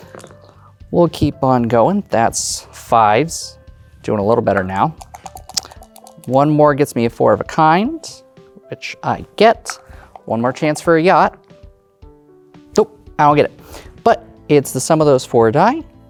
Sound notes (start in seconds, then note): 0.1 dice rolling; 4.9 dice rattling